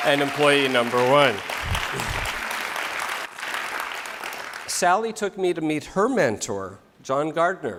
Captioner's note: applause